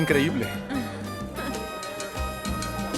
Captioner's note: Faith resopla